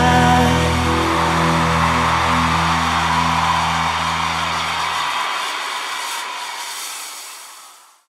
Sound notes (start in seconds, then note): 0.0 crowd cheers